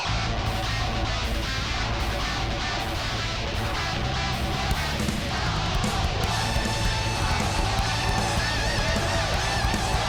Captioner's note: crowd cheering